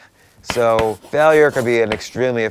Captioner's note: chalk writing